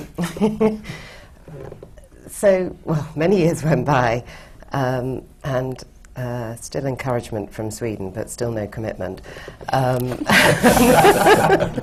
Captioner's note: laughs